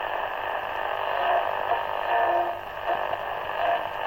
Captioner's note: radio tuning